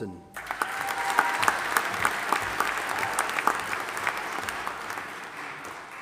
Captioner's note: audience applauding and cheering